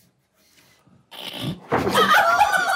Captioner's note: snorts; group laughs